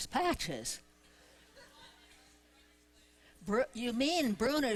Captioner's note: laughter